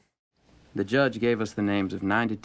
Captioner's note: Rudy Voiceover